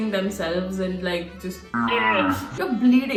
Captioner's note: painful squeeze sounds